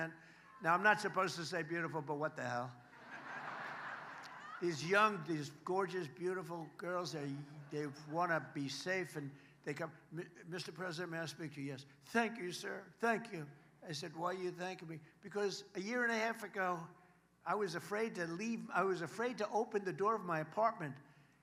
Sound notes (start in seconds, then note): 7.4 laughter